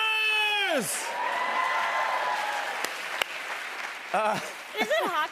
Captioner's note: cheers and applause